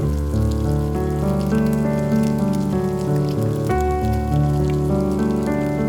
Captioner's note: low tempo piano music begins; fry pan sizzle continues